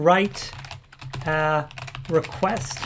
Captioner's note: keyboard keys clank